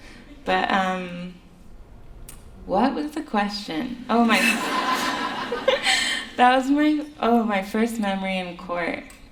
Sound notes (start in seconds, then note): 5.9 laughter